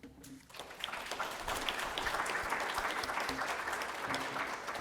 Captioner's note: audience applauding